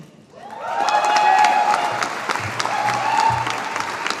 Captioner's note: audience applauding